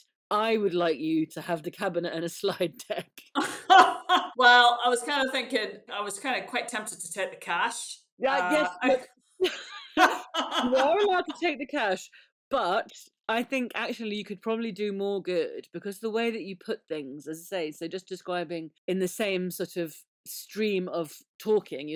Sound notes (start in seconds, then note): 9.4 laughing